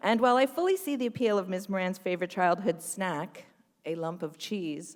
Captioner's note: none